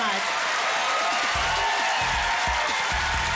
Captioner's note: crowd cheering